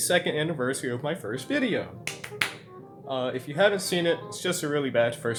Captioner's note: clap clap clap